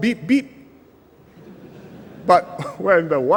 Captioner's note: laughter